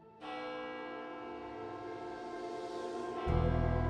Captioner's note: church bells tolling